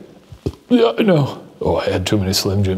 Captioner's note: burps